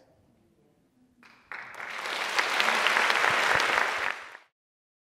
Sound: applause

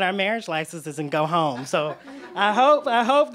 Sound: laughter

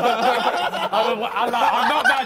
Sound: men laughing

